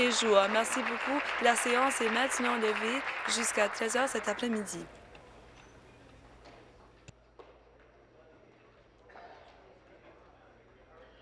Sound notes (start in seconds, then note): 5.5 applause